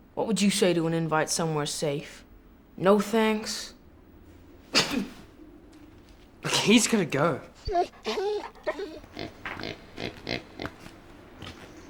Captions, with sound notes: What would you say to an invite somewhere safe? No thanks? (coughs) - He's gonna go. (dog whines) (pig oinks)